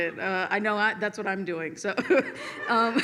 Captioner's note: laughs